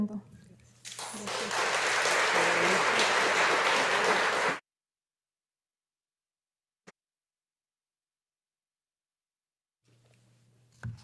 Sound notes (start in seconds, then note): 0.8 audience applauding